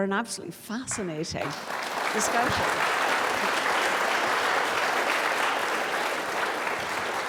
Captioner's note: audience applauding